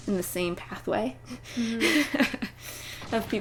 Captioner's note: laughter